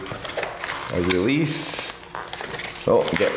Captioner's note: package rustling